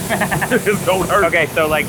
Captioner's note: laughs